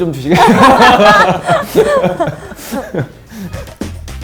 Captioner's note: laughs